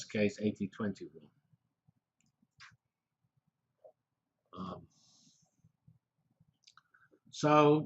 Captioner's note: pause